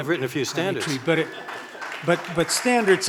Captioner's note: audience clapping